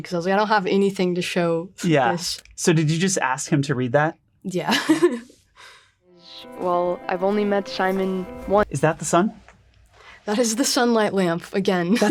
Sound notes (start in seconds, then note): 4.8 laughs